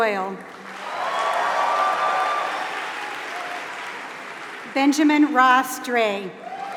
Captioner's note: applause